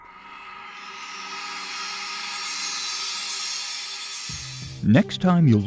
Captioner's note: sound Effects